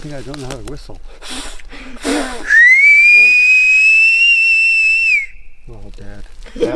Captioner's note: mimics whistling; whistling